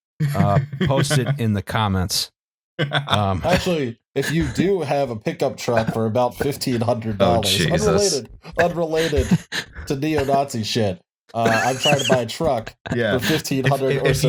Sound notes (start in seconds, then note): 0.2 laughs; 4.2 laughs